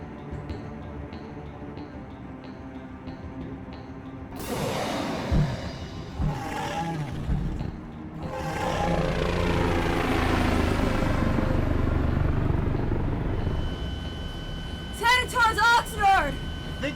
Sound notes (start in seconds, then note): 5.9 growling